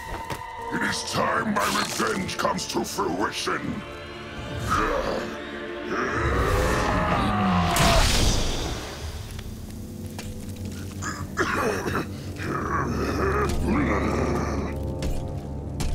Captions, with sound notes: It is time my revenge comes to fruition. [grunting] [coughing] [grunting]